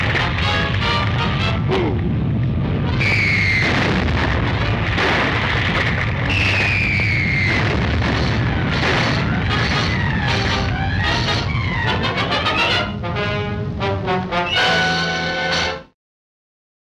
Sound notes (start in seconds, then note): 2.9 missile screams